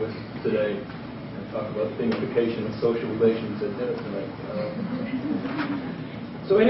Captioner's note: laughter